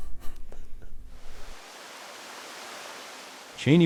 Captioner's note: laughs; water splashing; voiceover